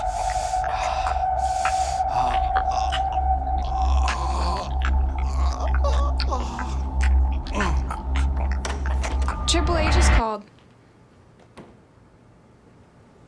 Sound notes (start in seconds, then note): 0.0 sucking sound; 3.6 panting and growning